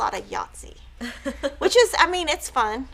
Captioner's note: laughs